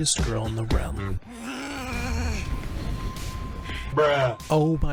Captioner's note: growling